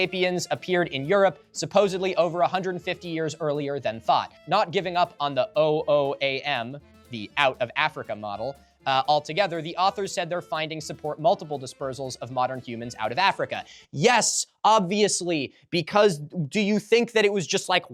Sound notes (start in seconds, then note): none